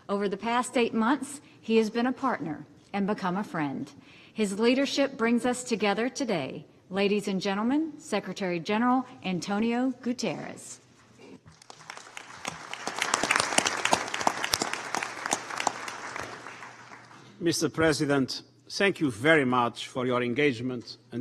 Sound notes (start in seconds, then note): 11.5 applause